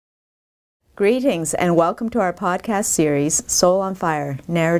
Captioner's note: voiceover